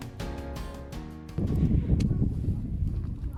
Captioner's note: wind blowing